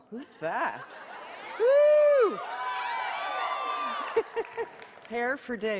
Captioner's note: cheering